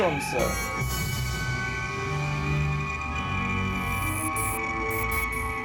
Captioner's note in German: Transportersummen